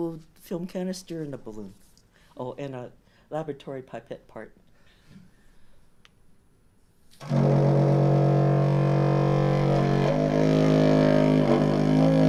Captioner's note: low bass horn sound